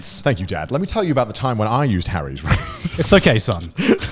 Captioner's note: laughs